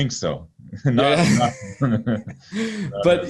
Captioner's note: chuckling